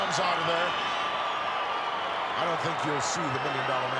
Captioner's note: applause